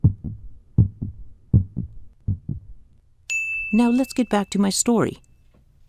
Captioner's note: bell chime